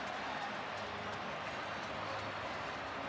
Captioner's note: crowd cheering